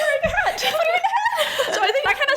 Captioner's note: laughs